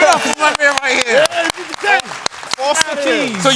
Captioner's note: applause